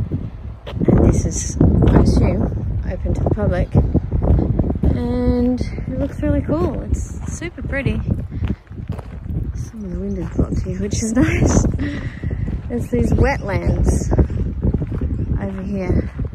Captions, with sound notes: And this is, I assume, open to the public, and it looks really cool. It's super pretty. Some of the wind is blocked here, which is nice. [scoffs] There's these wetlands over here.